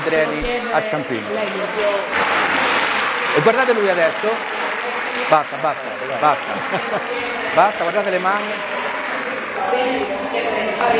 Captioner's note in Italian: Applauso